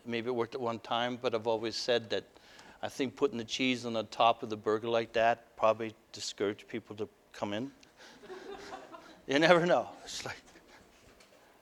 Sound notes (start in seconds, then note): 8.2 audience: Laughter